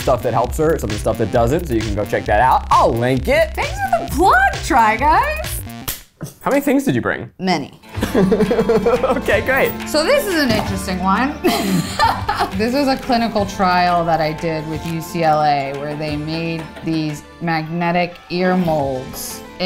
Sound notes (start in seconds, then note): 5.8 hands clap; 8.0 laughing; 11.4 laughing